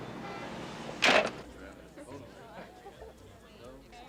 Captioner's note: indistinct chattering